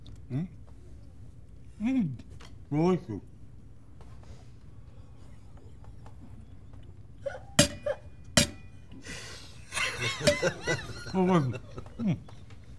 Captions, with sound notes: Mm? Mm, delicious. [LAUGHING] Delicious.